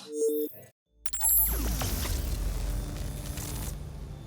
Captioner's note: computer glitching tones